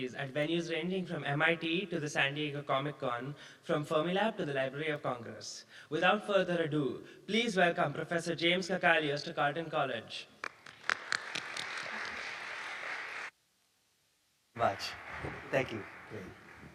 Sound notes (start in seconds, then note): 10.4 audience clapping